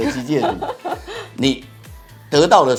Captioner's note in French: haha